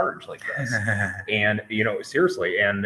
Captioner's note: Ginger laughs